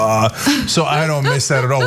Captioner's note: laugh